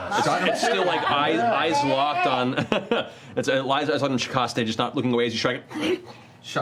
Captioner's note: chuckles; grunts